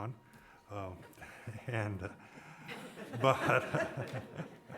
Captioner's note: laughing